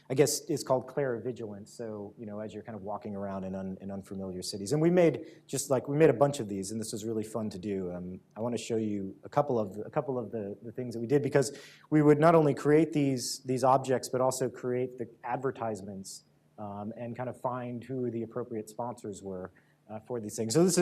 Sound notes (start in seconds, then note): none